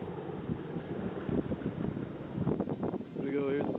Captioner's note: wind rustling